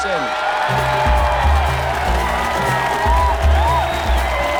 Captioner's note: crowd cheering; upbeat music playing